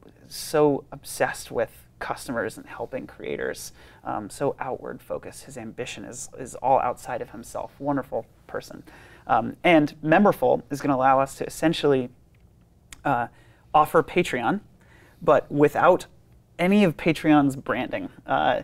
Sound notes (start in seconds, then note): none